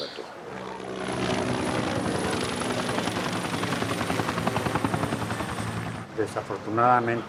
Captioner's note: helicopter propeller sound